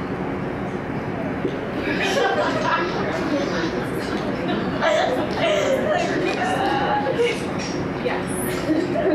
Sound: audience and panel laughter

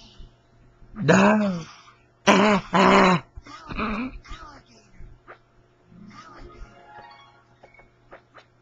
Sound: throws up

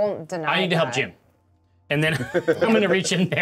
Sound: co-host laughing

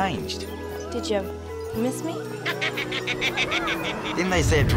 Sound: rabbit toy laughing

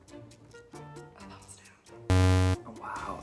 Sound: buzzing

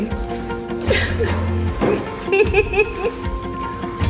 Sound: happy crying

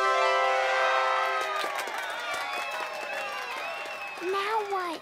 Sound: cheering and applauding

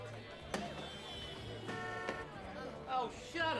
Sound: car horn honks

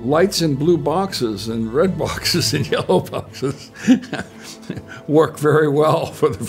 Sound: laughing

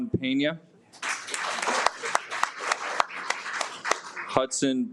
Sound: audience applauds

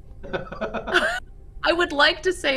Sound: laughs

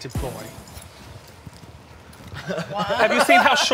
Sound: all laughing

